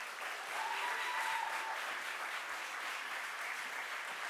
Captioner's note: audience applauds